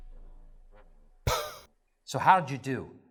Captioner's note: poof!